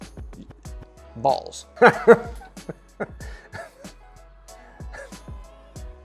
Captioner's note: laughing